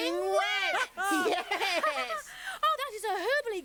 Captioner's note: laughs